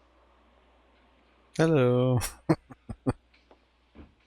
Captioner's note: chuckling